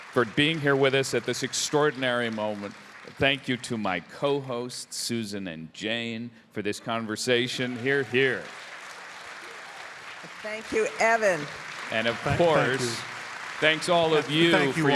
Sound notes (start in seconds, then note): 8.8 audience applauding